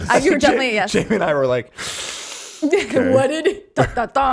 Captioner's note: laughing; deep inhaling